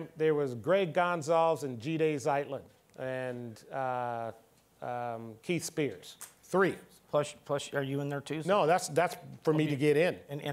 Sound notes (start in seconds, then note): none